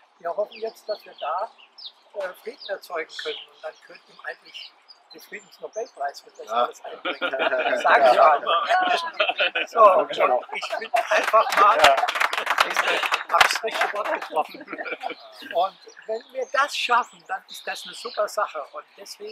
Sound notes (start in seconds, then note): 7.0 laughter; 7.6 clapping